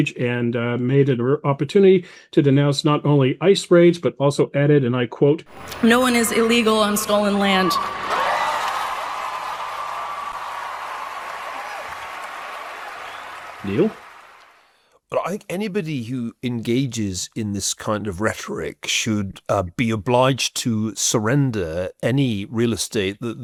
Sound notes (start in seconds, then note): 8.2 crowd cheering